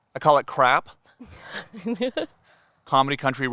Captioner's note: laughing